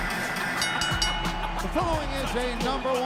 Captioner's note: bell dinging